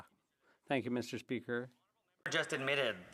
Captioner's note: speaking French